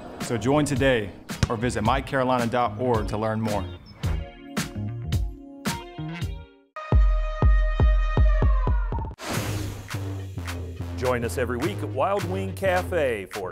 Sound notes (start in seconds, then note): 4.4 jazz music; 7.1 drum beats; 9.5 air rushes